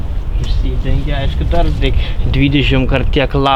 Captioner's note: none